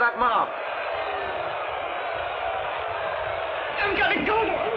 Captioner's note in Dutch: schreeuwen